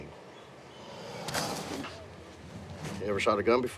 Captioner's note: alligator growling